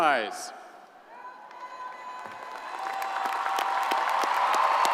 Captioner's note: crowd applauding